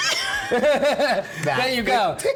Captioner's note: laughs